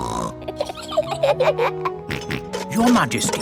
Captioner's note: snorts; both giggle; snorts